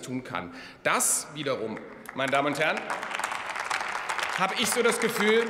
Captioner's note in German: Beifall bei der FDP, der SPD und dem BÜNDNIS 90/DIE GRÜNEN